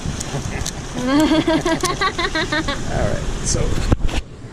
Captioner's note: both laughing